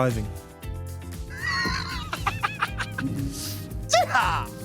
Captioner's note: laughs